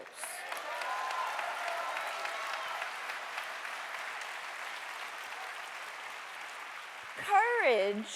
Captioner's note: applause